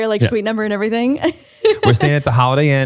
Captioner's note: laughs